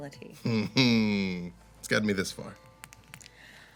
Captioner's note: chuckles